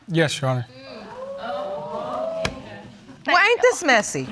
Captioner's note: audience exclaiming